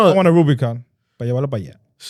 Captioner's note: speaking In Foreign Language